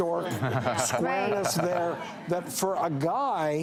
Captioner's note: audience laughs